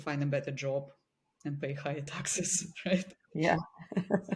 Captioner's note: laughs; chuckles